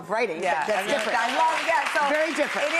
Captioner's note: applause